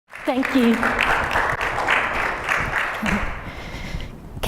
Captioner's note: applause